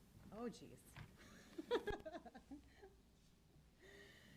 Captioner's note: chuckles